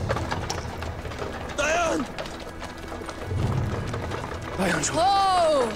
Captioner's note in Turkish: Kağnı Sesleri